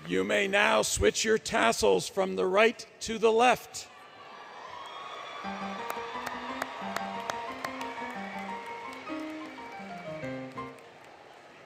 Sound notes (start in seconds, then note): 4.1 cheering, Music; 4.7 cheering, Music, Clapping